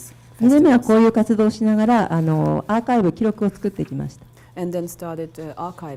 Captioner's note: speaking foreign language